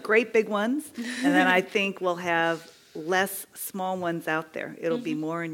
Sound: laugh

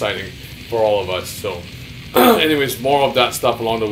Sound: clears throat

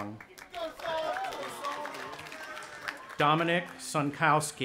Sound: audience applauding and cheering

